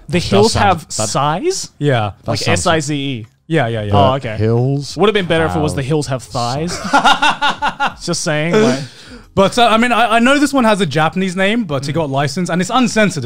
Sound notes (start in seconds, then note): 6.7 laughs